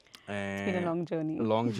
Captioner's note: laughs